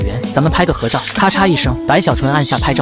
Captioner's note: click